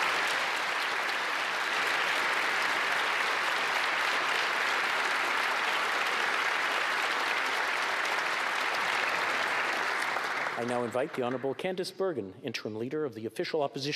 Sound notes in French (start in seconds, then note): 6.3 applaudissements